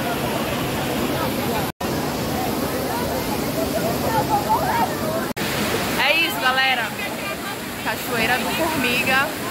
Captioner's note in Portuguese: som da cachoeira